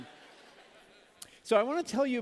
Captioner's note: laughter